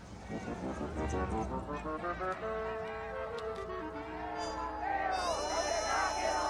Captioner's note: crowd chant